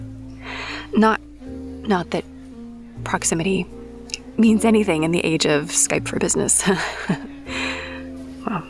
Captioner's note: laughs